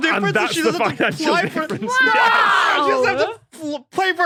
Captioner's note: shouts